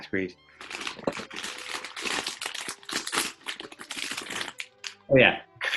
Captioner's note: horne rustles and opens crisp packet